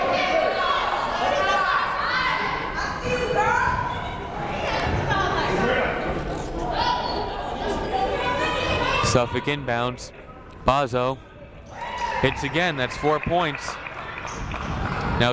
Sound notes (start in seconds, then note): 0.0 players shouting